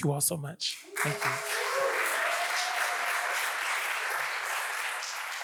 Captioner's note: audience applauds